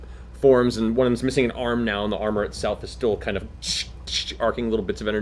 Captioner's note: electricity noise